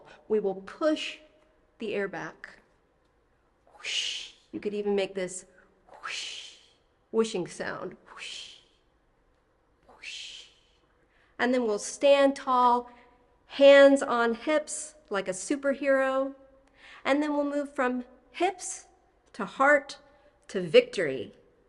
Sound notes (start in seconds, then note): 3.7 makes a whooshing sound; 7.9 continues the whooshing sounds